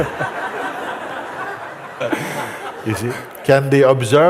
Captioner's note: Lachen